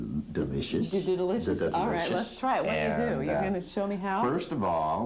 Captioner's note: stuttering